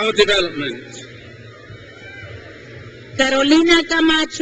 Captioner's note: crowd cheers